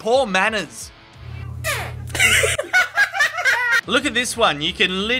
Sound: cat's farting

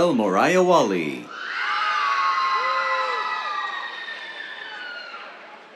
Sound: cheers

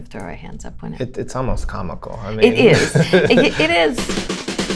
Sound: laughter

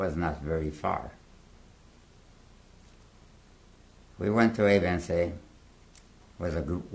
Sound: pauses for 3 seconds

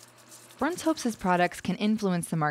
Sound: voiceover

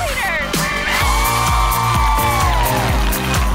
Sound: cheering; upbeat music

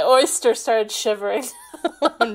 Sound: laughing

